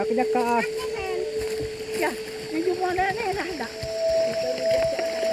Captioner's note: woman speaking in foreign language